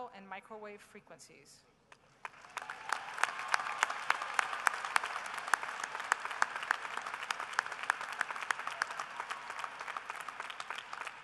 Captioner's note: applause